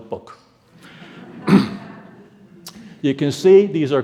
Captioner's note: audience laughing